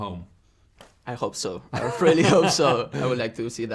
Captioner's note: laughs